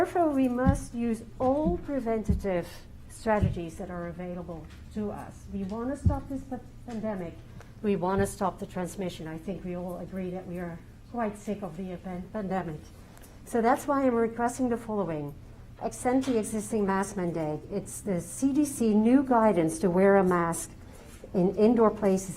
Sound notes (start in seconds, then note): 4.2 distortion